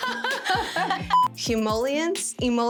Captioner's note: laughing